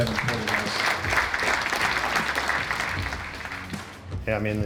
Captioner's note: audience applauding